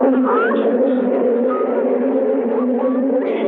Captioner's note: screaming